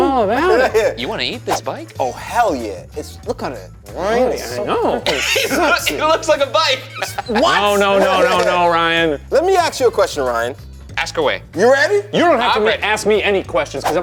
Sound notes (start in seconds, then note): 7.0 laughing